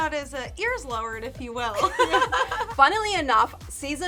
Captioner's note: all giggling